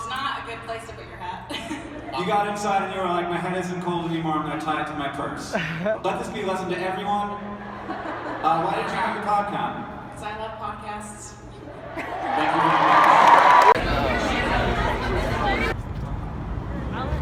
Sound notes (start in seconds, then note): 11.8 audience cheers